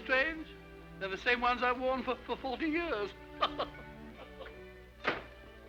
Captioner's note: laughs